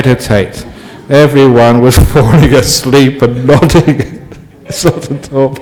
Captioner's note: Ajahn laughs